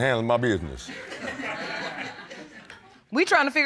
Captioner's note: audience laughs